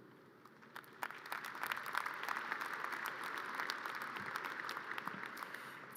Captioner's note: audience cheers and applause